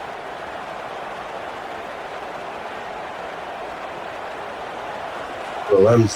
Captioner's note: crowd cheering